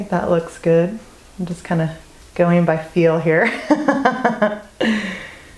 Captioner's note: laugh